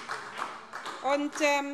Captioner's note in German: Beifall SPD